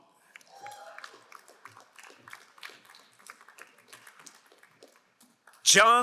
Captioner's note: crowd cheering and applauding